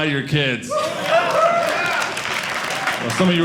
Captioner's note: audience applauding